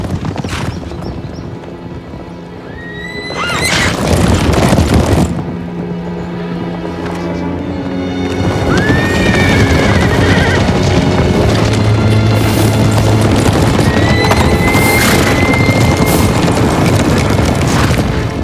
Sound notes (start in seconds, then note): 0.2 ominous music; 8.0 horses neighing; 11.1 dramatic music